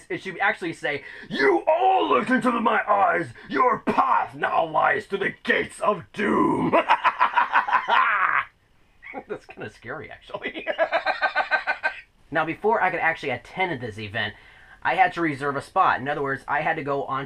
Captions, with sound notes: it should actually say, "You all looked into my eyes! Your path now leads to the Gates of Doom!" (evil laugh) That's kindof scary actually. (laughs)